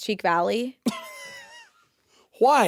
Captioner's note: Jacksepticeye chuckling